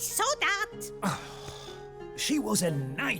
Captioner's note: sighs